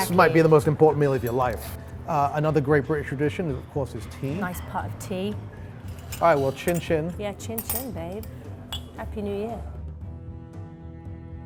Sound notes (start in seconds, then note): 8.6 glasses clinking